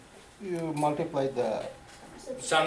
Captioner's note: voiceover